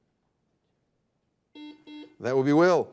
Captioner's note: buzzer dings